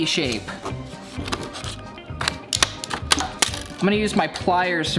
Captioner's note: blade cutting